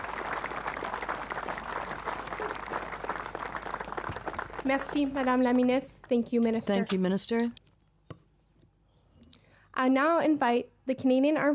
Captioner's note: applause